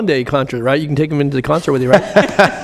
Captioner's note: laughter